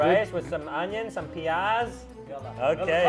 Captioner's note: speaking in foreign language